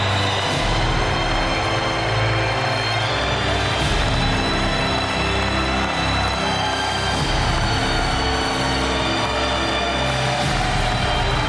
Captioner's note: cheers and applause